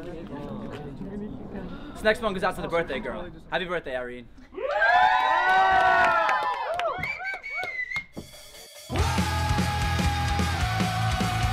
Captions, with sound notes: >>> This next one is for the birthday girl. Happy birthday, Irene. [Crowd cheering]